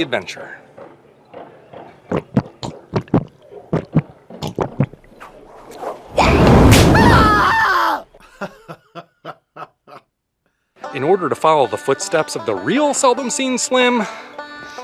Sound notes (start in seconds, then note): 2.0 gulping; 6.1 scream; 8.2 laughter